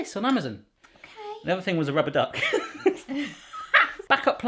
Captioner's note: laughing